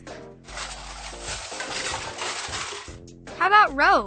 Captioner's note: sifting through drawer